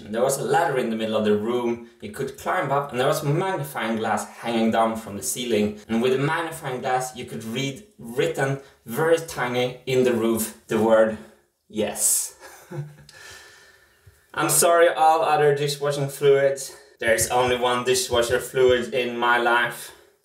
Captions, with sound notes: there was a ladder in the middle of the room, He could climb up and there was a magnifying glass hanging down from the ceiling, and with the magnifying glass you could read written very tiny in the roof the word “yes”. [chuckles] I’m sorry, all other dishwashing fluids, there's only one dishwasher fluid in my life.